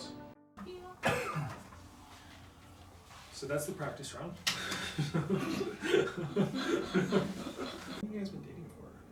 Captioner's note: laugh